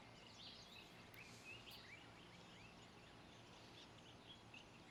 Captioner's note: birds chirping